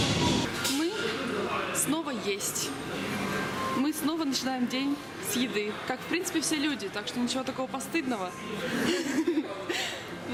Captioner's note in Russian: смеются